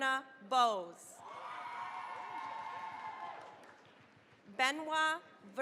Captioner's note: cheering, applause